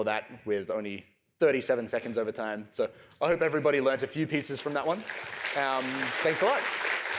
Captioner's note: applause